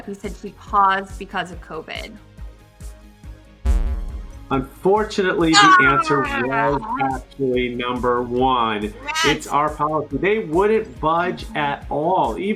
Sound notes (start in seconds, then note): 3.8 retro gaming bleep sound